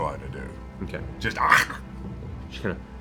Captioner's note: chomp